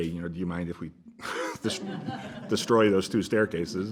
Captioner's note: chuckles